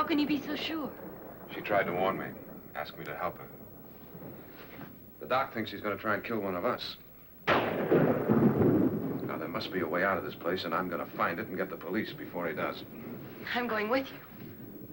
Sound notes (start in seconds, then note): 7.8 thunder